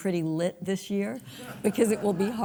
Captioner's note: audience laughs